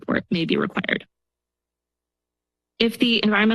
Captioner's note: pause